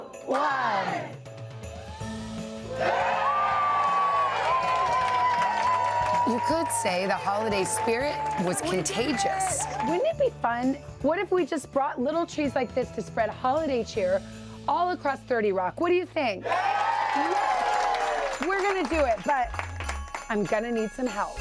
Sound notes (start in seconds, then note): 8.9 cheers and applause